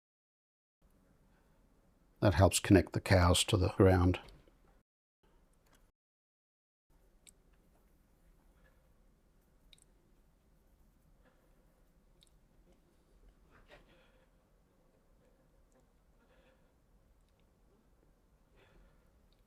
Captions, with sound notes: [silence] That helps connect the cows to the ground. [silence]